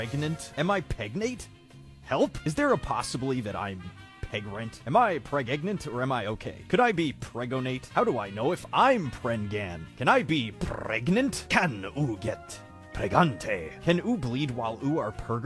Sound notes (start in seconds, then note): 11.2 italian accent